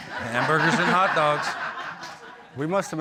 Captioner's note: audience laughing